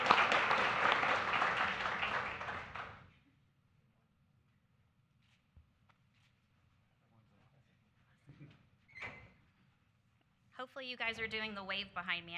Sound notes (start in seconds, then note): 0.0 applause